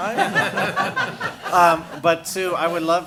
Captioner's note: laughing